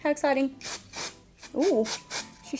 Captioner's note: spray hissing